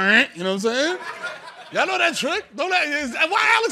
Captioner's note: laughter